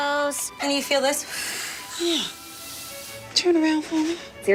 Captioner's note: blowing